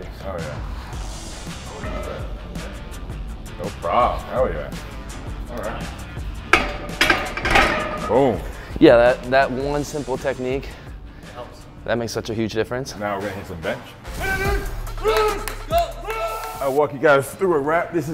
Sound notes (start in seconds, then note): 2.0 rock music; 6.4 weights clanging; 14.4 yelling; 15.0 clapping